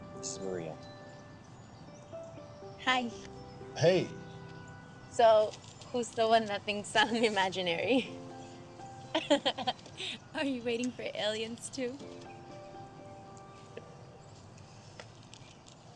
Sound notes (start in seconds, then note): 9.1 laughs; 12.7 gentle music